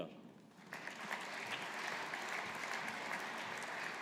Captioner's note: audience applauding